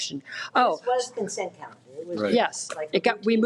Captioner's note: woman speaks faintly